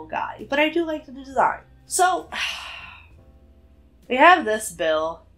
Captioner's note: sighs